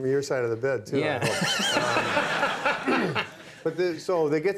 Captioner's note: Conan laughing